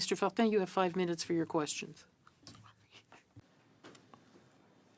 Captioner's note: speaking French